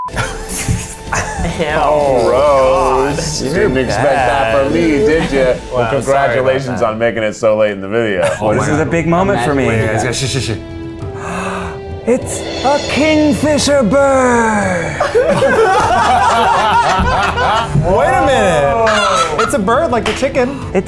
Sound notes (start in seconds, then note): 0.2 laughs; 11.1 gasps; 14.9 laughs